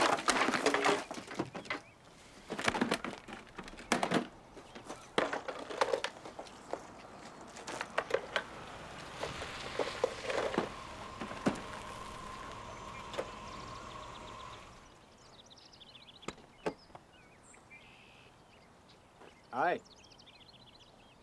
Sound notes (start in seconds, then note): 0.0 boxes clattering; 7.4 car engine whirring; 14.2 birds chirping